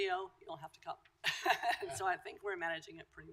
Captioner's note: laughter